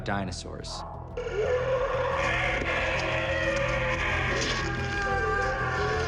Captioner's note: howling